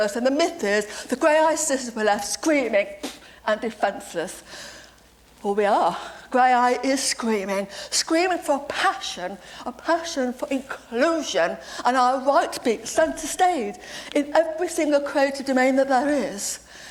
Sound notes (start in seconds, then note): none